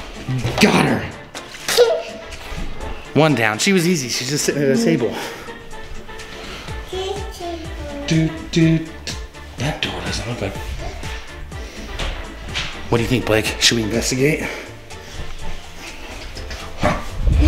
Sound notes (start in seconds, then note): 2.0 giggles; 7.0 babbles